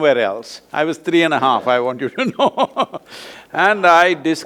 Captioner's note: both laugh